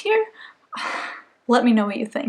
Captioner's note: exhale